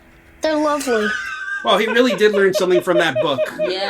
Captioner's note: laughs